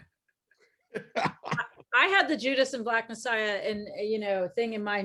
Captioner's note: everyone laughs